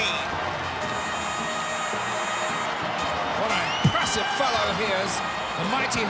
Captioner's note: applause